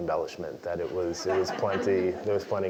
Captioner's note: laugh